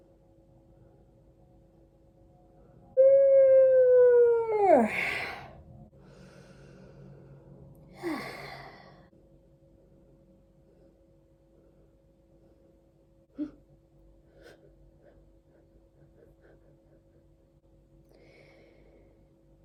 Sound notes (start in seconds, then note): 3.0 yawning sounds; 7.9 sighing; 12.6 continued gentle breathing